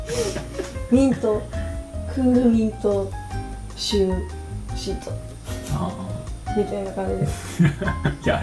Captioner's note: laughter